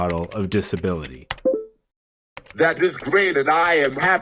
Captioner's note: typing noises